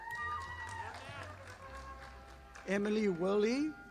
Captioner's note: audience applauding